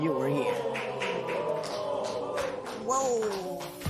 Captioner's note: audience murmurs